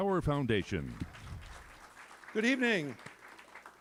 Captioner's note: applause